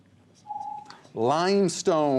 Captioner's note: ringing